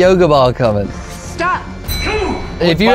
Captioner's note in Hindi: टाइमर